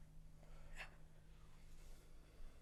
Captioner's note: none